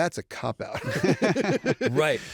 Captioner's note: laughter